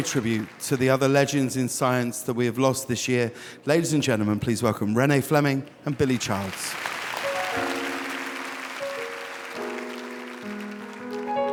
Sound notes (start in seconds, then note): 5.8 audience applauding; 7.2 soft piano music